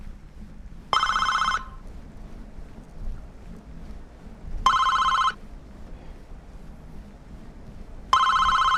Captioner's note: intercom ringing